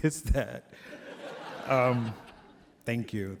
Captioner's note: laughter